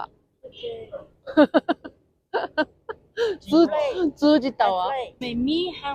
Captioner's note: laughs